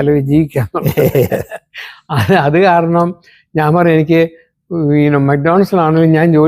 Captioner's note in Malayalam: പൊട്ടിച്ചിരി